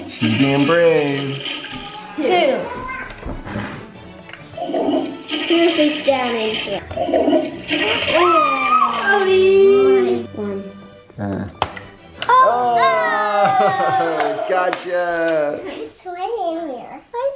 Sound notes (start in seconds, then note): 7.3 toilet flushing; 13.0 in Unison